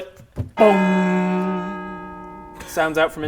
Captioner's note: bonggggggg